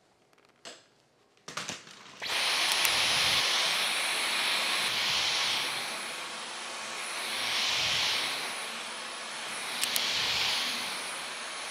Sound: vacuum sounds

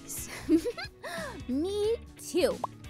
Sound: laughing

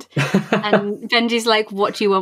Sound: laughs

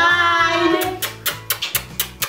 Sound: sounds of kissing

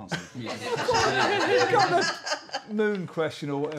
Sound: laughter

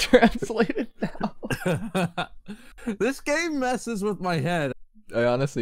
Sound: laughs

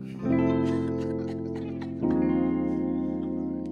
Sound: laughing

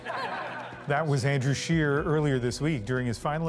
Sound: laughter

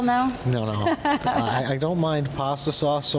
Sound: laughs

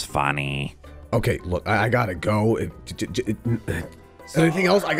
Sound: suttering

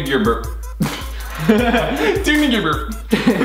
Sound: laughs

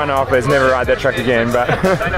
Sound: murmurs

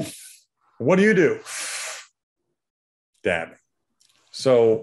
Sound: poof; sucks air

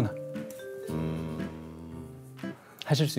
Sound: hmmmm

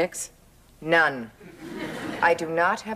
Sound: audience laughing

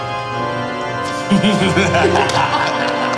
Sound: evil laughing

